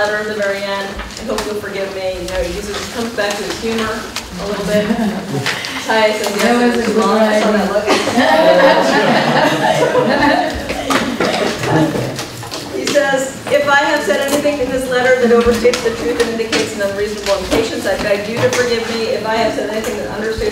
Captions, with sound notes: HE SAYS, "I'VE NEVER WRITTEN SUCH A LONG LETTER," AT THE VERY END, "AND HOPEFULLY YOU'LL FORGIVE ME." YOU KNOW, COMES BACK WITH HUMOR A LITTLE BIT, TIES- - [ LAUGHTER ] - HE SAYS, "IF I HAVE SAID ANYTHING IN THIS LETTER "THAT OVERSTATES THE TRUTH "AND INDICATES NO REASONABLE IMPATIENCE, "I BEG YOU TO FORGIVE ME.